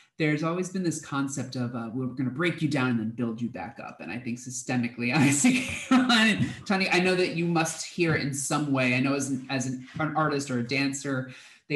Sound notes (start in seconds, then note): 5.2 laugh